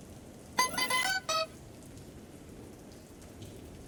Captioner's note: bell chimes